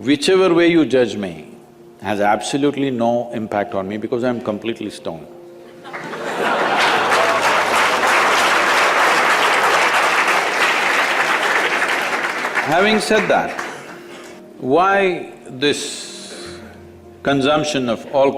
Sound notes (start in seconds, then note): 9.4 laughter/Applause